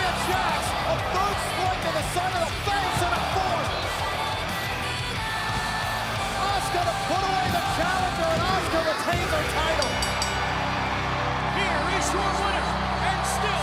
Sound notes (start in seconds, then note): 9.4 bell ringing